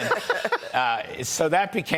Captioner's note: laughter